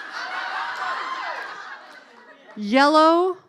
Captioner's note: laughing